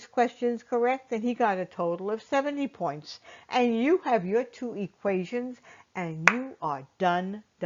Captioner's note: clap